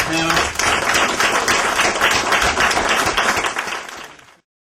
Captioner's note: applause